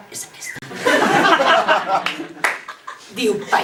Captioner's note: laughs